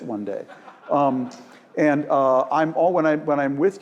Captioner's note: laugh